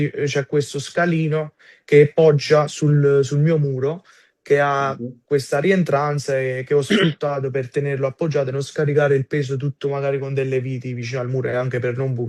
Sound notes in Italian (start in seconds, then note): 6.8 schiarire la voce